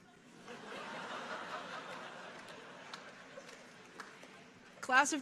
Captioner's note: audience laughing